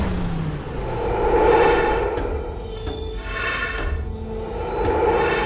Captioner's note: ominous orchestral music continues; person breathing heavily